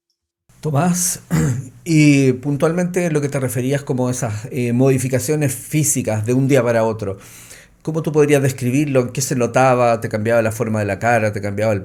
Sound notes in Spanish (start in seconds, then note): 1.2 carraspeo